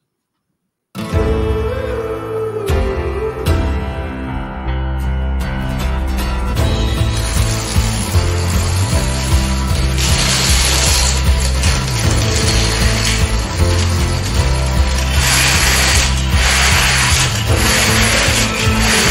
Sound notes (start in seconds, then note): 1.3 upbeat music; 9.2 whooshing sound